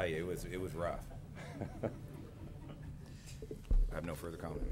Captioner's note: laughter